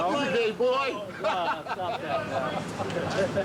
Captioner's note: laughter